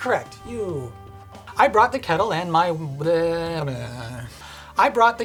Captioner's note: weird foghorn noise